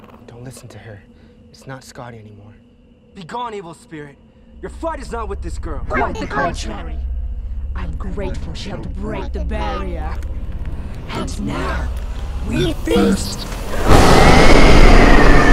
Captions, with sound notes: Don't listen to her, it's not Scottie anymore. Be gone evil spirit, your fight is not with this girl. [distorted voice] Quite the contrary. [distorted voice] I'm grateful she helped break the barrier. [distorted voice] And now, we feast! [roar]